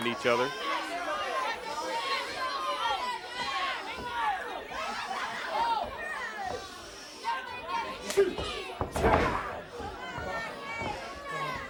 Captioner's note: crowd chatter